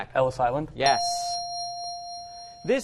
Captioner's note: ding